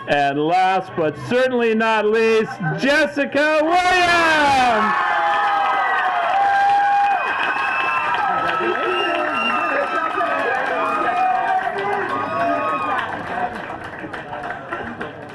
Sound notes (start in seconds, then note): 4.9 applause